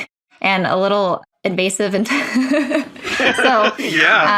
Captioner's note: laughs